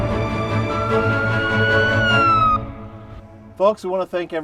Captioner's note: sirens blaring